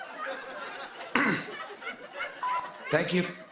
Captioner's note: coughs